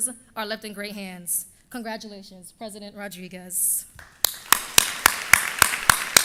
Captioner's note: applause